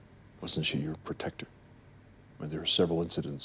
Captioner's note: none